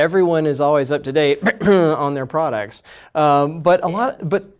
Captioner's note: coughs